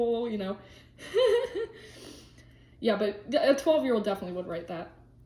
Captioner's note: laughs